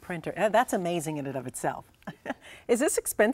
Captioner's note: laughs